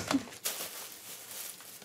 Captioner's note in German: Rascheln